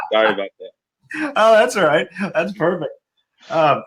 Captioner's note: laughing